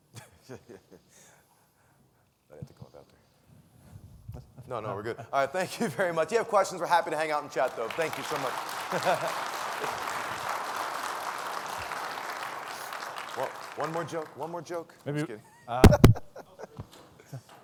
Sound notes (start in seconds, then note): 0.2 laughs; 9.7 audience applauds